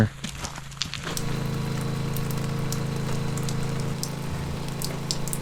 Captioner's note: rain pattering